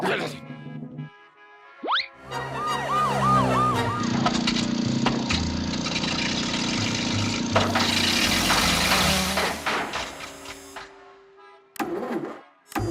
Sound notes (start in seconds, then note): 0.5 sirens blare; 4.4 motor sputters, whirs; 6.7 motor sputters, stops; 11.1 ignition stalls